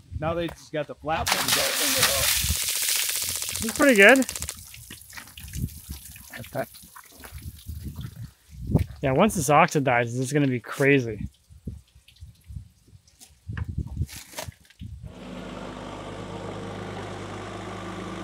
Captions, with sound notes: - Now they just got the flap. (water splashing) (board clicking) - It's pretty good. Yeah. Once this oxidizes it's gonna be crazy. (engine revving)